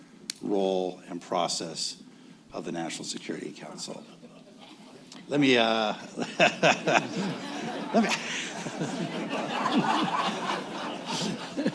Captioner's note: laughter